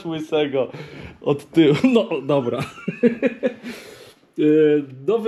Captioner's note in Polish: śmiech